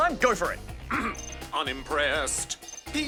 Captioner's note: clears throat